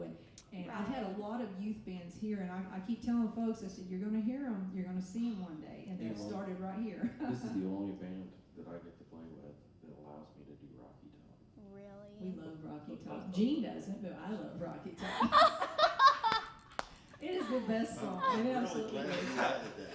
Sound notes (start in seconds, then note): 15.0 laughing